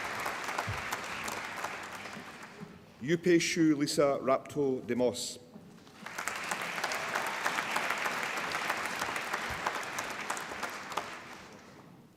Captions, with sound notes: Aspasia Lisa Raptodimos (APPLAUSE)